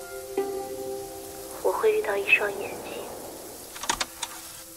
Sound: moonquakes

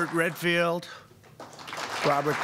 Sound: applause

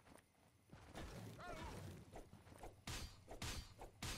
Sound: clanking of metal

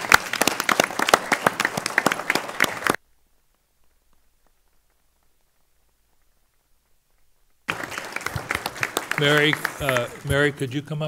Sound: applause

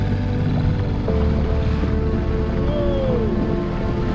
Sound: boat engine purrs

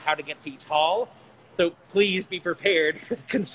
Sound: chuckling

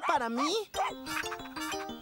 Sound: barking & Panting

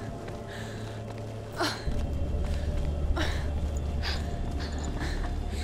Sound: ethereal hum grows louder; laugh

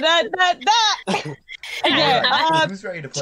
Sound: laugh

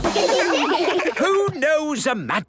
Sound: children laugh

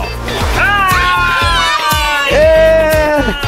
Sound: cheering

